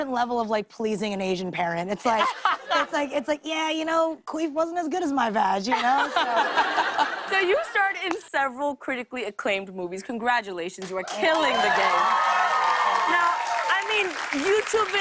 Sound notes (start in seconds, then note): 5.7 laughter; 11.0 cheers and applause